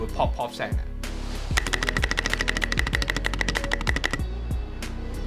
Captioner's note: popping sounds